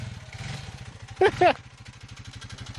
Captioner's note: laughs